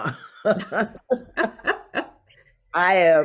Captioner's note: both laugh